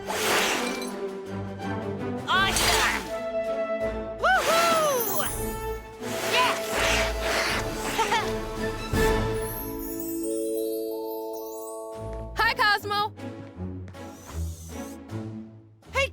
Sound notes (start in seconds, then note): 7.9 Cozmo laughs; 9.6 soft glitter sounds; 13.3 playful Orchestra music